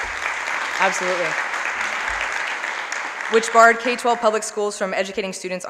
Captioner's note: applause